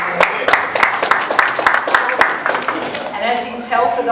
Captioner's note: Enthusiastic Frankston line clapping